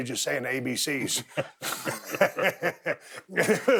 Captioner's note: both chuckling